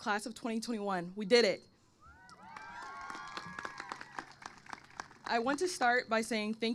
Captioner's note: applause